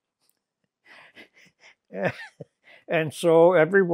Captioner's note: laughing